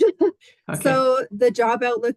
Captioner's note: laughs